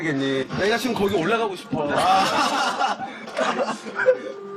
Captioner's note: laugh